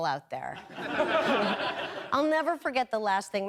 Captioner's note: audience laughing